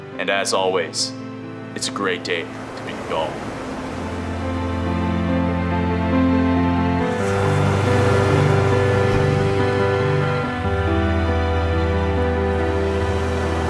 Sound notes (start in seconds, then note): 4.5 majestic music; 10.0 waves crashing